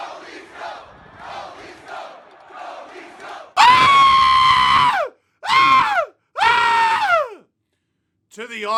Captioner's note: more screaming; screaming